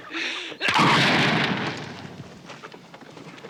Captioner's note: bang